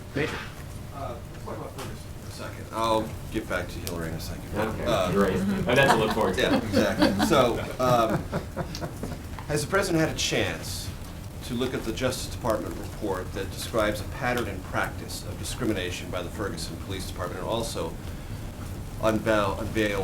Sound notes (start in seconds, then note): 7.4 laughter